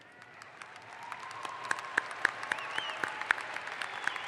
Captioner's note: audience applauds